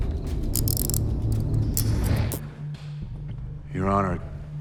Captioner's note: handcuffs click